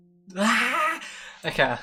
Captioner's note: big Inhale